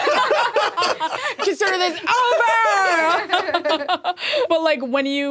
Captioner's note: all laughing; laughs